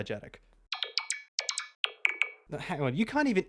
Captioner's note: incredulous beeps